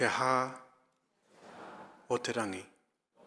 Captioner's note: speaking in foreign language; audience speaking in foreign language; speaking in foreign language